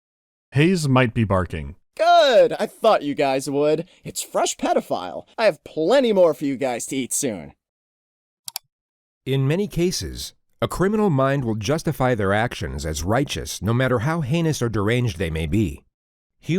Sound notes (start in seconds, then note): 8.4 click